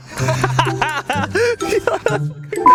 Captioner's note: laughter